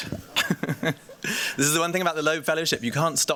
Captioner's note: giggles